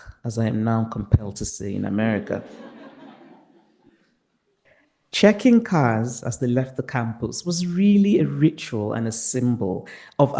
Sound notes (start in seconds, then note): 2.1 participants laughing